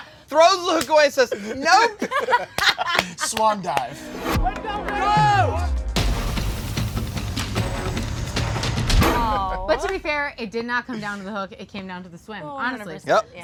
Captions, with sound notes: - Nicole throws her hook and says, "Nope!". (laughter) - Swan dive. (yelling) (dramatic music) - Aw. - But to be fair it did not come down to the hook, it came down to the swim, honestly.